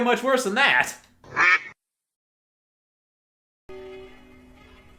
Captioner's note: duck quack; suspenseful music